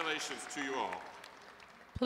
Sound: applause

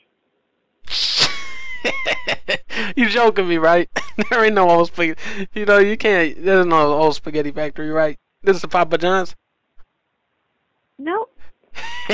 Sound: wheezing laughter; dunkey laughs

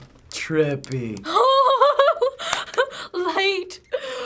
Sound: giddy laughter

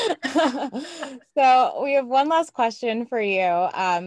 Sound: laugh

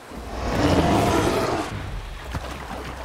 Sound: roaring

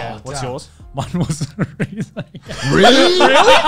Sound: laughs

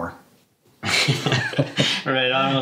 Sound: both laugh

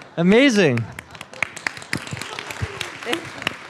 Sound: applause

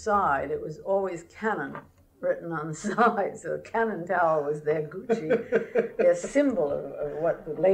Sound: laughter

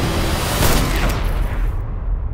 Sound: gunshot

